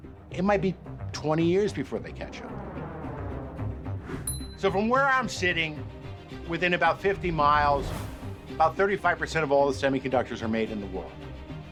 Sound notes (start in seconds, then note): 2.3 plane noise; 2.7 ting sound